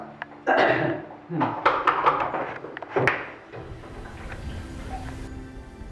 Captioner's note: soap dispenser clicking